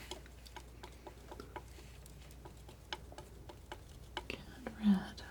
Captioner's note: scratching